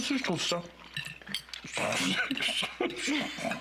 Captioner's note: Il s'étouffe; rires